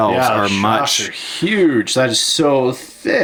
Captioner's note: voiceover